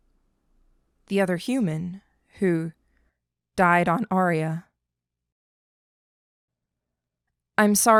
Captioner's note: pause